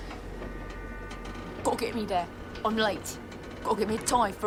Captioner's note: imitating %*#